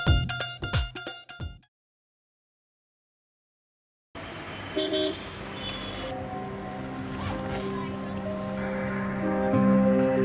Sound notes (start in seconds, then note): 4.5 horn honking; 6.3 dramatic music